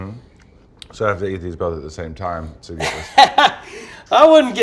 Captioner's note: laughs